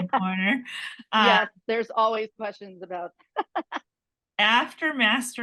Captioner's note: laughs